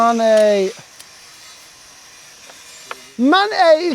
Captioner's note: none